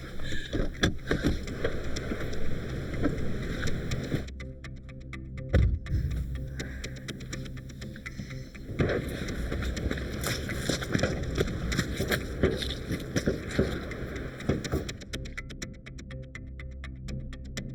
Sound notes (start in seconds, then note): 0.2 car door clicks; 1.8 ominous music; 1.8 wind blowing; 5.5 car door bangs; 7.7 wind blowing; 11.3 hood clicks